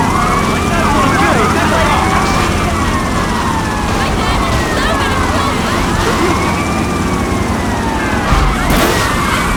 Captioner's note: gunfire